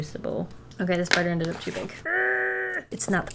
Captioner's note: frustrated groan